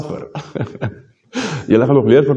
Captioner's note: laughter